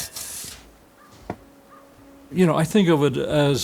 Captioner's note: crow caws; serene music